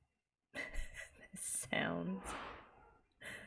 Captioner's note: laughs